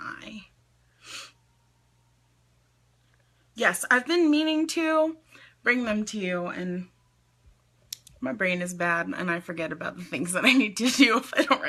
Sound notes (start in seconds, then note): 1.0 sniffs; 7.9 tongue clicks